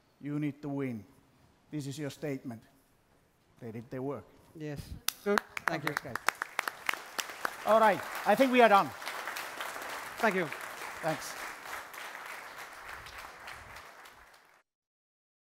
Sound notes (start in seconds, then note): 5.0 applause